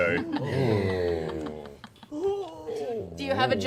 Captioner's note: disconcerted oohs